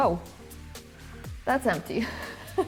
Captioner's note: laughs